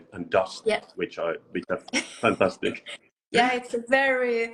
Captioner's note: laughs